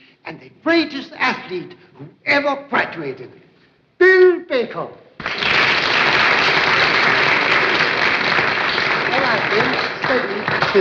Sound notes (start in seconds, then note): 5.1 applause